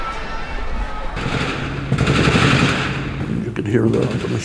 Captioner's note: gunshots